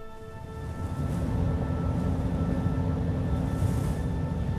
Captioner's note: howling winds